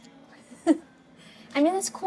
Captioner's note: Keely chuckles